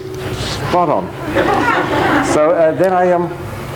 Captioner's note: audience laughs